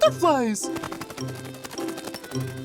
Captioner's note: wings flapping